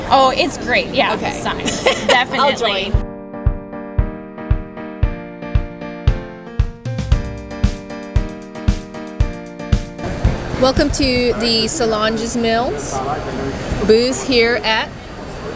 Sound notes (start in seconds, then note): 1.6 laughs; 5.3 transitional music